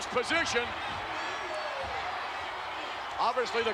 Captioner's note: spectators cheering